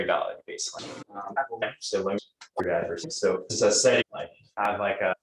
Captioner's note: distorted speech